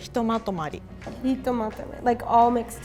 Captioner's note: speaks in foreign language